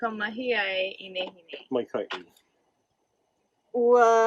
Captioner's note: instructor talks in native language; student 2 speaks in native language